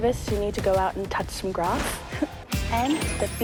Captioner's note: chuckles